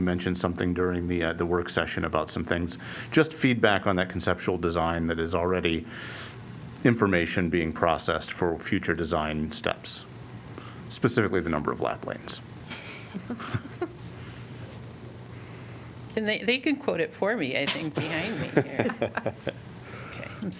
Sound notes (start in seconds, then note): 12.7 laughter; 17.6 laughter